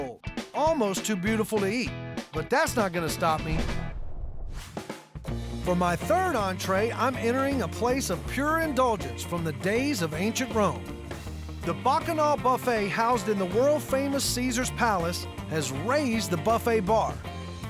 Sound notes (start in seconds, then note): none